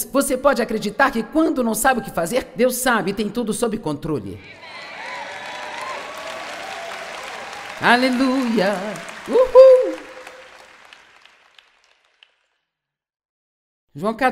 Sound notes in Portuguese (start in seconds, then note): 4.4 audiência aplaude